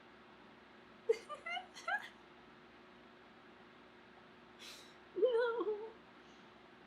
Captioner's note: squeals and laughs